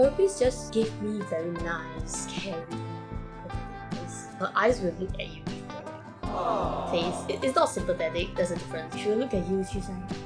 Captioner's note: aw